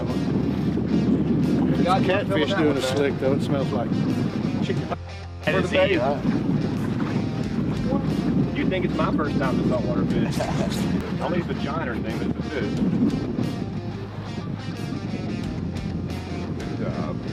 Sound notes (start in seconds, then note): 5.5 upbeat rock music; 10.3 man chuckling; 14.8 upbeat rock music